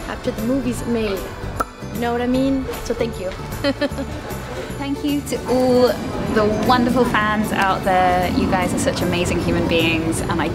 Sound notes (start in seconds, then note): 3.5 laughs